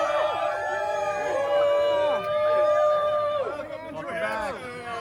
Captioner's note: cheering